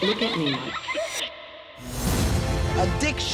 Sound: child laughter

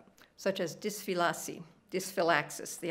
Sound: speaking italian

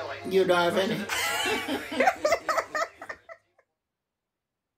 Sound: laughing

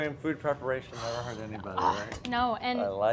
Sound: scoffs

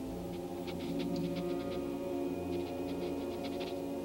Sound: Shep sniffing

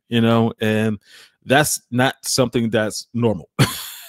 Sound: laughs

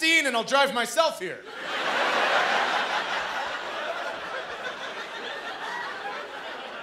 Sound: laughter

